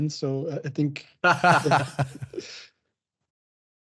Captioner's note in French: rire